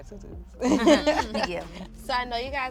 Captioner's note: laughing